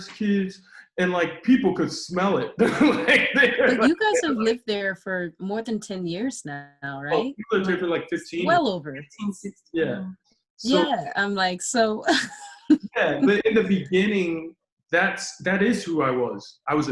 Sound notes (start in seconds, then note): 2.1 laughs; 12.2 laughs